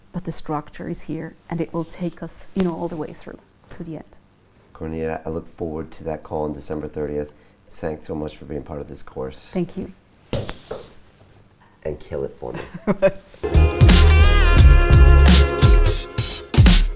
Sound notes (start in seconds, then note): 12.5 laughing; 13.4 upbeat music